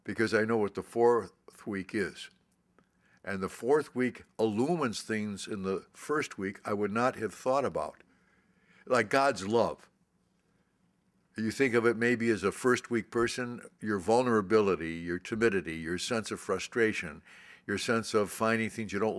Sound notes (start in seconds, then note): none